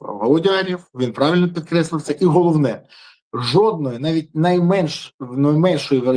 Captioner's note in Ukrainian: сопіння